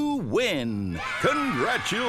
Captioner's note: cheering